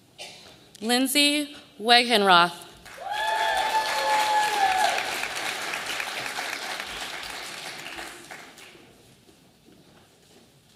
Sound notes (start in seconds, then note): 2.8 audience applauding